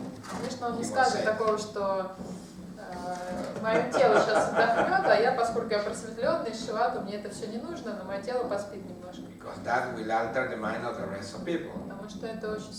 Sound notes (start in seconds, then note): 3.7 hahaha